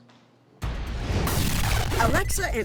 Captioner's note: static noise